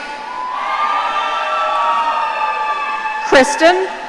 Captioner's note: audience cheering